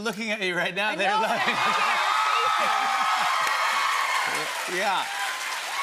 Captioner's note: cheers and applause